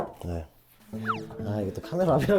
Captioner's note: Scratch